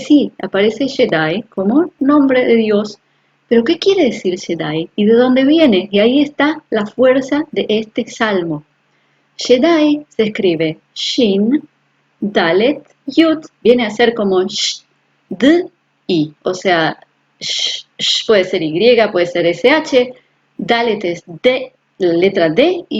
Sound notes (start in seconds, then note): 15.3 sounds in Hebrew